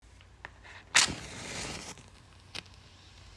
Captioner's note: match strikes